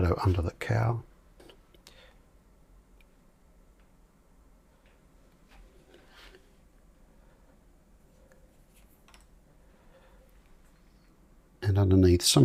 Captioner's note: silence